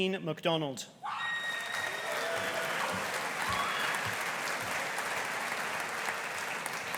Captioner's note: audience cheering; audience applauding